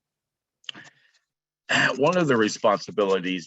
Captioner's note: clears throat